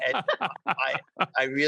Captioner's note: all laugh